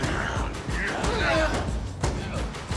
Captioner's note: grunting